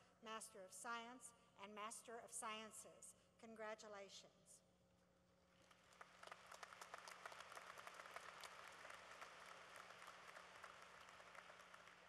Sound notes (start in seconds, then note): 5.5 applause